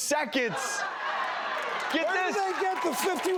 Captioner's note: cheering and applauding